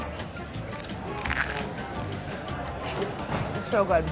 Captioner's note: crunching